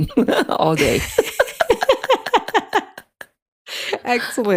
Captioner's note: both laugh